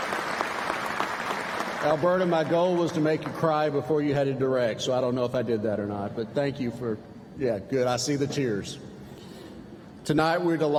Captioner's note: applause